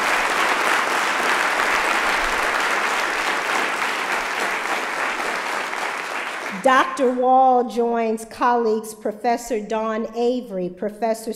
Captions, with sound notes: believe that? [APPLAUSE] Dr. Wall joins colleagues Professor Don Avery, Dr. Mary Fergle, professor